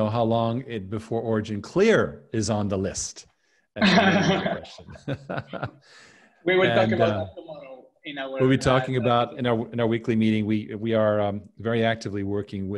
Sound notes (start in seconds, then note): 3.8 laughing; 3.8 chuckling